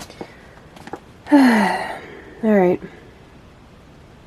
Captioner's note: heavy sigh